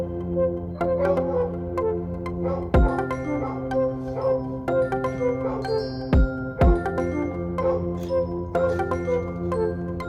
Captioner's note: music and a dog barking